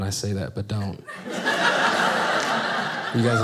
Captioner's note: audience laughing